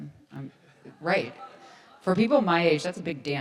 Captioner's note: audience laughs